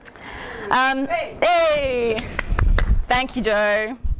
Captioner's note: clapping